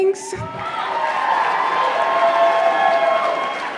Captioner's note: applause